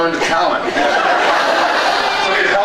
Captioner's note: laughs